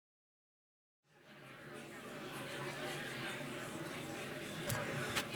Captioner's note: crowd chattering